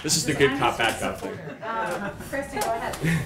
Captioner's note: laughter